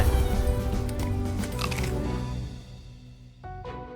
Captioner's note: crunching